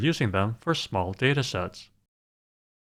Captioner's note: none